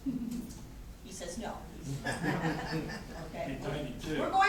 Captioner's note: corporate laughter